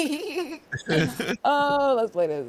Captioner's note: laughing